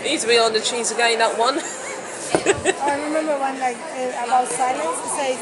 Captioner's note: laughs